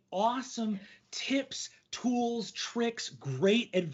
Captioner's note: none